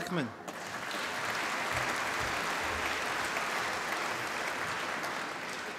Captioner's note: applause